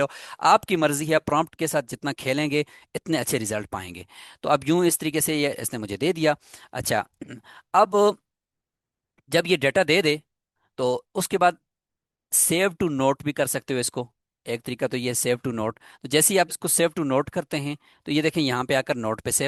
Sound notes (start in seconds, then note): 7.2 clearing throat